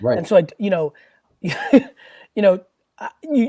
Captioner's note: chuckles